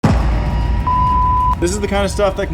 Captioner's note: beep